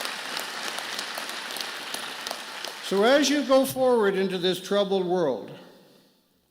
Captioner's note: applause